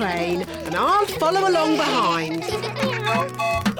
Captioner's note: all giggling; tooting